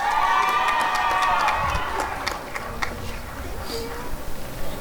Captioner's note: applause and cheering